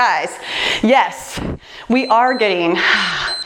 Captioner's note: timer beeps